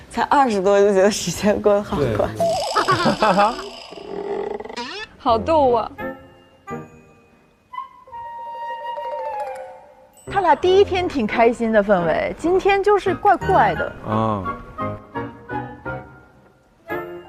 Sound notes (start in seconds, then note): 2.5 giggles; 4.7 stops giggling